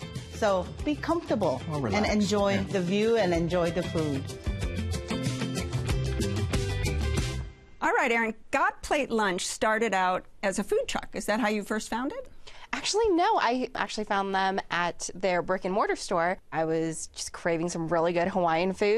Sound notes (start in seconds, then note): none